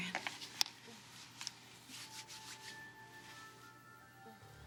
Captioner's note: Maggie moans